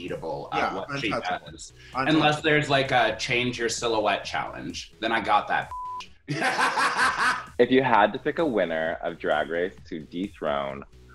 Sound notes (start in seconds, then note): 5.7 beep; 6.3 laughs